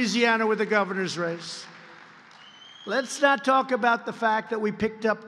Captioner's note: applause